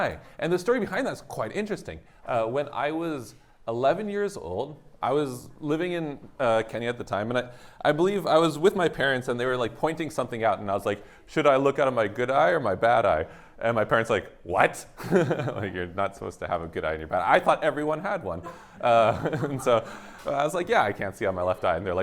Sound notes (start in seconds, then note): 15.0 laughter; 18.8 laughter